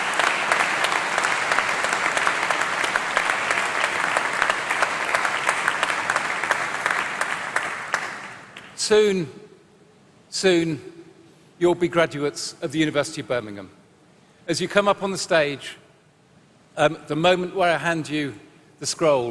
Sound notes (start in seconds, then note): 8.7 applause